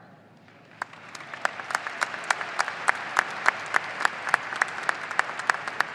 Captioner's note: audience applauding and cheering